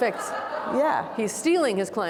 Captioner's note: audience laughing